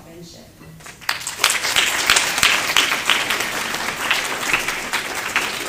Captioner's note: applause